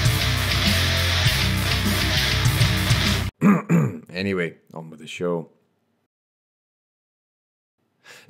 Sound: ahem

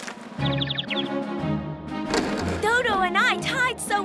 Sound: bird tweeting

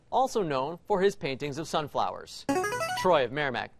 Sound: buzzer plays

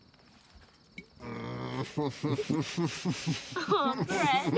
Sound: laughter

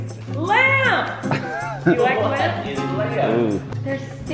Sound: laughing

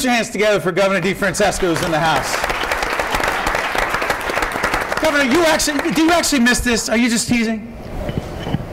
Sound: applause

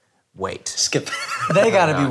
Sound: laughs

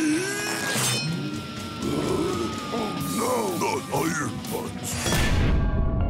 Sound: gasping

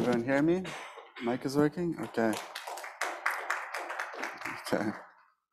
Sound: audience applauding

